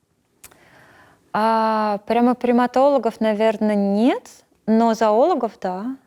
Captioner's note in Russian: Цокает языком